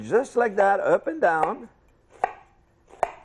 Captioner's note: chop